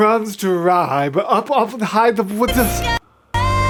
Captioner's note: overwhelmed noises